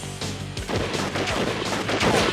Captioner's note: gunshots